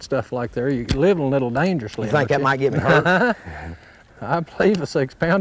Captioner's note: laughter